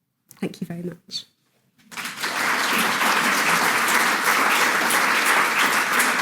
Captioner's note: audience applauding